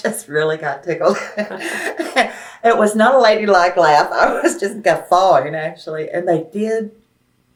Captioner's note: laughs